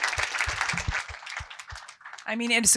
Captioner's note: applause